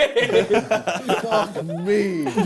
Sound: both laughing

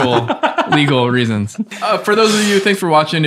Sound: laughs

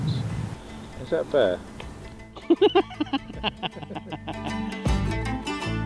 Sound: laughs

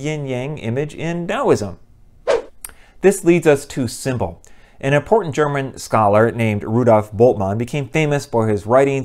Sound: swoosh

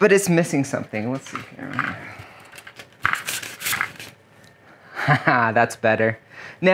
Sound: laughs

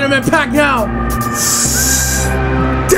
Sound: inhales

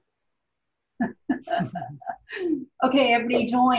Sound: both laughing

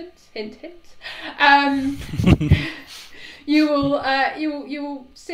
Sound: laughing

